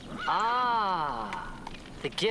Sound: horse whinnies

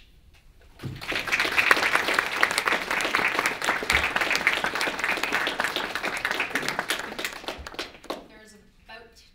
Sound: audience applauses

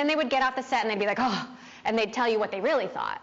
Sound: sighs dramatically

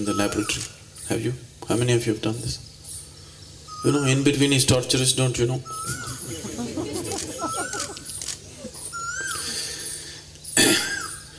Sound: laughter

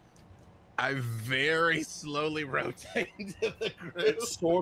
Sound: laughing

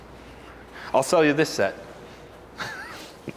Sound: chuckles

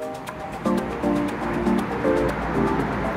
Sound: cars driving past

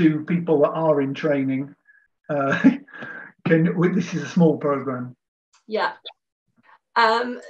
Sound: laughs

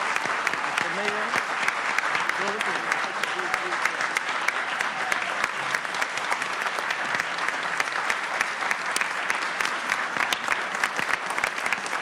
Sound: applause

